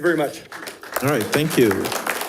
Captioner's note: audience applauding